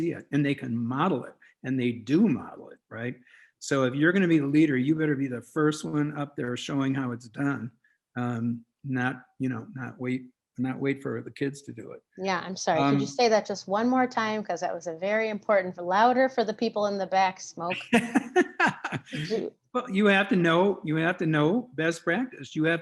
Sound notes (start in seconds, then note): 17.8 laughs